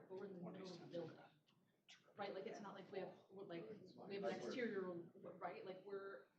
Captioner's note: off-mic chatter